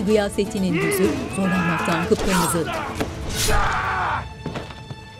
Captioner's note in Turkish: Bağırma sesleri; Dövüş sesleri